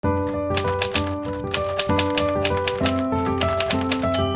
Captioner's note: typewriter clacking